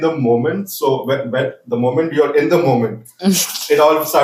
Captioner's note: laughs